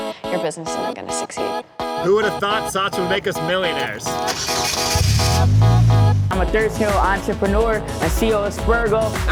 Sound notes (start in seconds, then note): 4.3 car engine ignites; 5.3 car egine revving